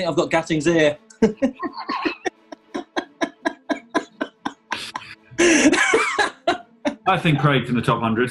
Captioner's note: laughter